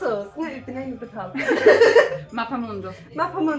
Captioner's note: laughing